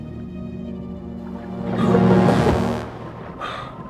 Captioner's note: gasps